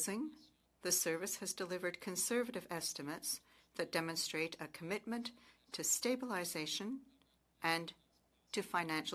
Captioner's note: speaking French